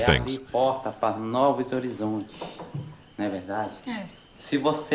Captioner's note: Portuguese spoken audio